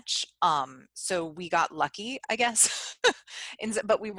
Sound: laughs

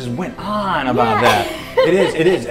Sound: laughs

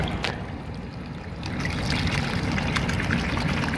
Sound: running water

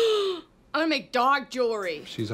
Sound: gasping

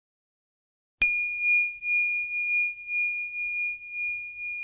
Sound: bell chiming

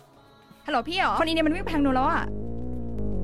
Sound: Malay Language

